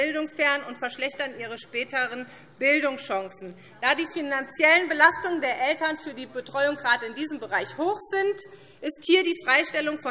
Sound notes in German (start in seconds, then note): none